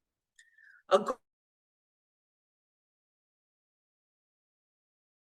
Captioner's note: audio cuts out